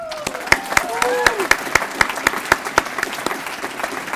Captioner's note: applause